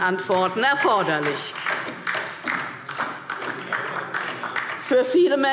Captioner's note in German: Beifall DIE LINKE